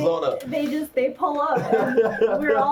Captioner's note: laughs